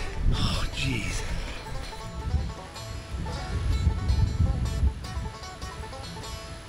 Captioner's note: fun banjo music; laughing; wind whistling; fun banjo music